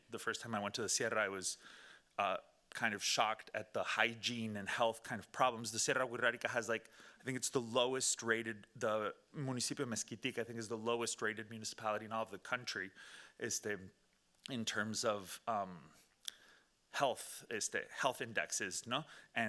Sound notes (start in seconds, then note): 9.5 speaking Spanish